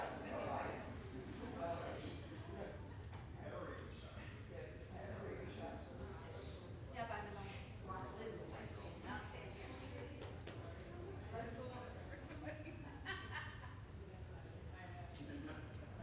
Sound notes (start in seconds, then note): 12.5 laughing